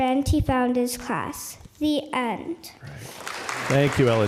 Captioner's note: applause